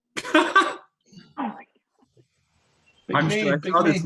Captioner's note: laughs